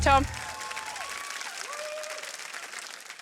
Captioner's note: cheering, applause